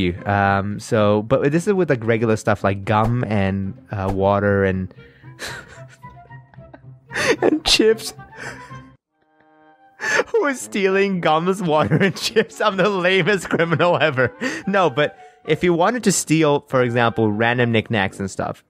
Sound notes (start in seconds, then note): 5.4 laughing; 10.4 laughing